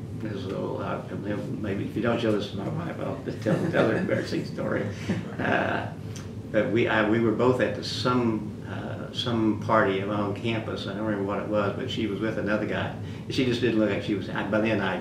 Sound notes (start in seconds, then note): 3.3 laughter